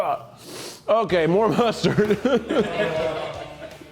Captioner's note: laughs